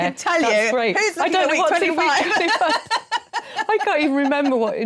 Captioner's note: laughing